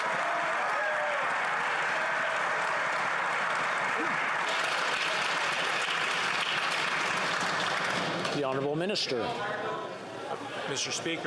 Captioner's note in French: applaudissements